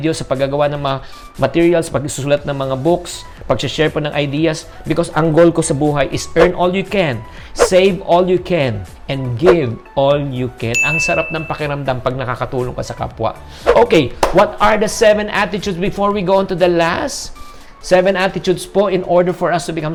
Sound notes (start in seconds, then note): 10.7 chime; 14.2 clap